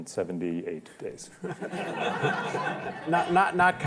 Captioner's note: laughter